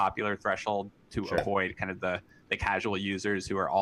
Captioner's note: popup pops